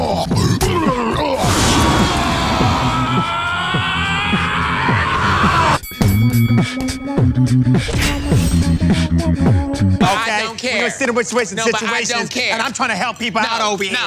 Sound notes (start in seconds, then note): 0.1 woman growling; 0.7 both screaming; 5.8 bell dinging; 5.9 theme song playing; 11.4 slurring